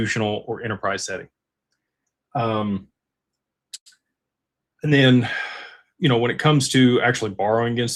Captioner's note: sighs and gasps